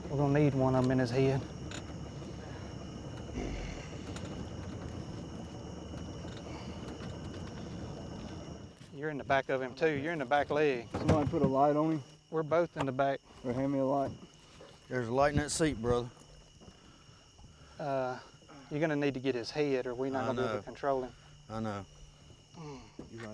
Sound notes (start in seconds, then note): 3.7 boat creaking and crickets